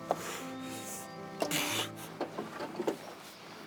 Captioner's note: feet scuffling, clattering